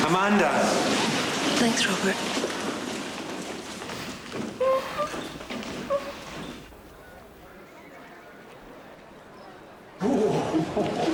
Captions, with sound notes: - Amanda? - Thanks, Robert. (whining) (group chattering)